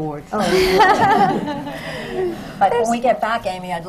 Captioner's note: laughter